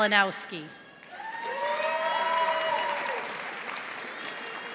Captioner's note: audience applauding